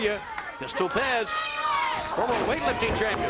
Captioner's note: crowd chatter